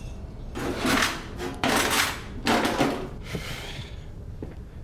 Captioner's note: rustling